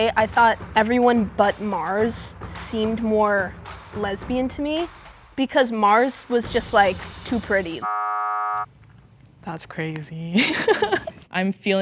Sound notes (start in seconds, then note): 7.8 buzzer buzzing; 10.3 laughing